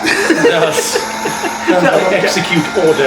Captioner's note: laughs